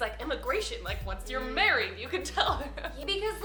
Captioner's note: laughs